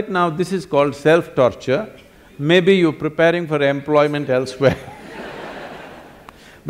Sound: laughter

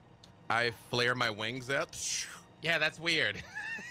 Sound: laughs

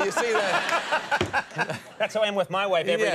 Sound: Conan and audience laugh

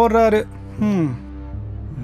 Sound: sigh

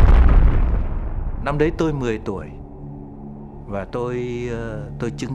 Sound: explosions echoing; speaking foreign language

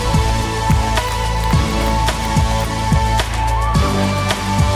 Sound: children clapping

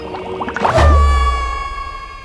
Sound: screaming

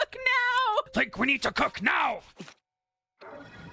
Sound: gruff Voice

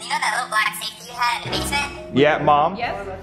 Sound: suspenseful noise; music intensifies

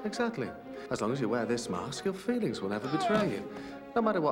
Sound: grunts

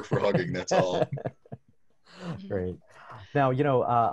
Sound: laughing

